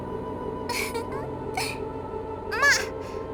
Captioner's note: giggle